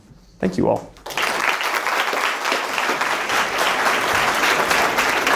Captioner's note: audience clapping